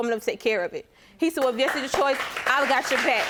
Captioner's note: applause